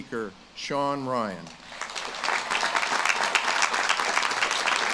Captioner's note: audience claps